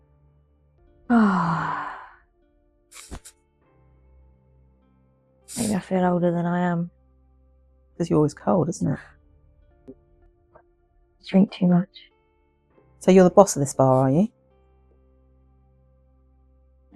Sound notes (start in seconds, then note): 1.1 sighs heavily